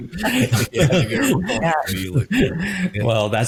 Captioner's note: laughter